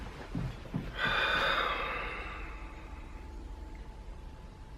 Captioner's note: sighing